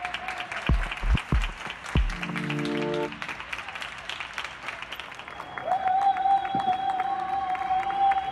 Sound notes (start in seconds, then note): 2.0 applause; 7.6 cheers and Applause